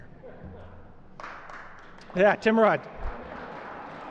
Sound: applause

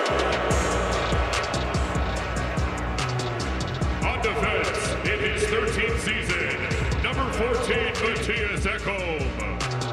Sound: crowd noise

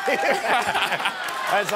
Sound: laughter

